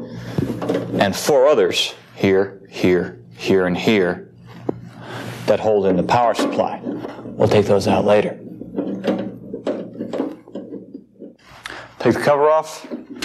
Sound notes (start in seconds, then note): 8.5 metallic clunking